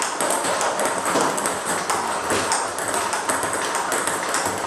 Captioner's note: ball ping pong hitting continues